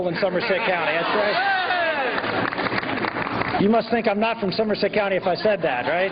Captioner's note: laughter